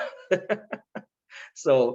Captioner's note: laughing